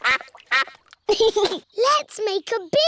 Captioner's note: quacking; giggles